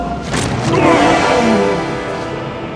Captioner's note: roars